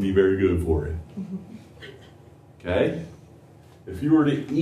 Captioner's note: laughter